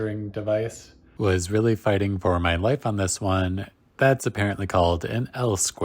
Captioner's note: voiceover